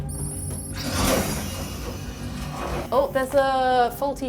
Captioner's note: scanner beeps; hydraulic door opens